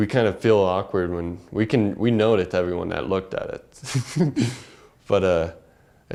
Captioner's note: laugh